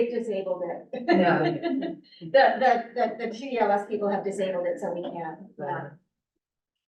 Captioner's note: laughs